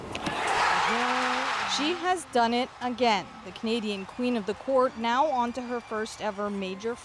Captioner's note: cheers and Applause